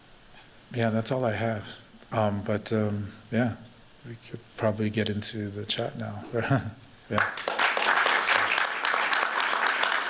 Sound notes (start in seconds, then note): 6.5 chuckles; 7.1 applause